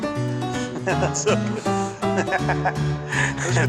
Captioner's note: laughs